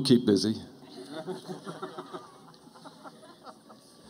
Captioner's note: laughter